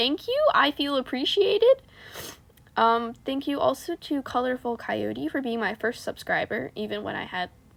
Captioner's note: snifffff